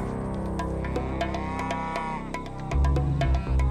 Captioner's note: cows mooing